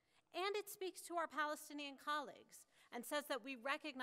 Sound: none

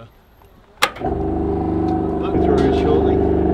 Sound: pump rumbling

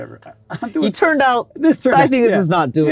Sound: laughs

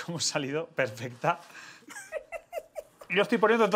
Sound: laughs

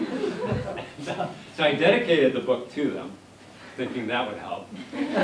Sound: laughs; laughter

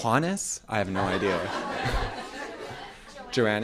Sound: laughter

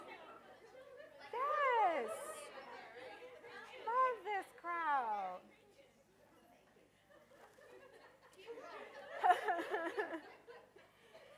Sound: audience laughter and comments

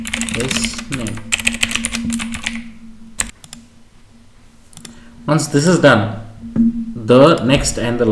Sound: Keychron K8 Typing - Rejoice

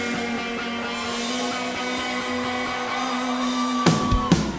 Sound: cheers and applause; energetic rock music

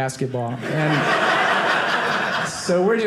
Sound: audience laughing

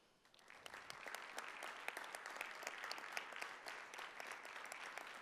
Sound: audience applauding

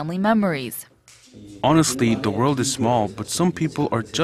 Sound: korean

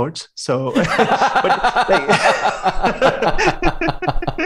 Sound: laughter

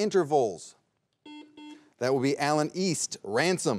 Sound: buzzer beeps twice

